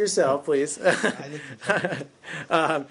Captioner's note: laughter